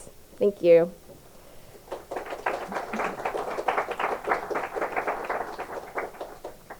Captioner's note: applause